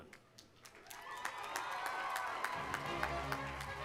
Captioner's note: audience applauding